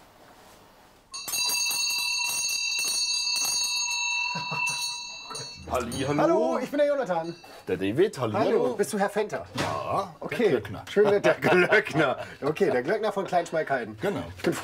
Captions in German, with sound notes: *Die Glocke klingelt.* Hallo, ich bin Jonathan. - David, hallo. Bist du Herr Venter? - Ja, der Glöckner. Der Glöckner von Kleinschmalkalden.